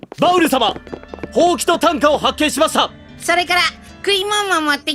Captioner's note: none